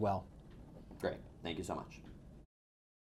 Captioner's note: voiceover